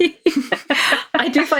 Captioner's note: laughing